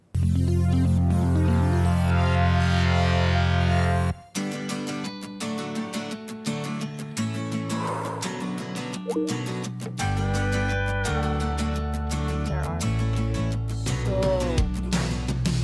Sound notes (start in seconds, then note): 0.1 light electronic music; 4.7 bright acoustic guitar music; 7.7 person exhales; 9.0 text chimes